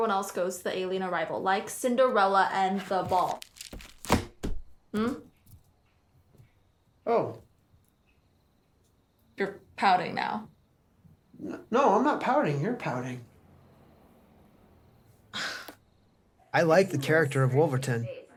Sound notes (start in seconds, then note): 15.1 scoffs